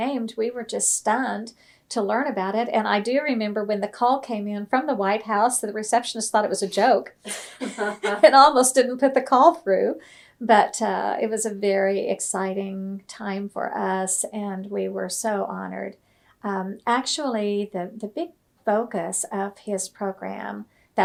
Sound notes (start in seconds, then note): 10.2 laughter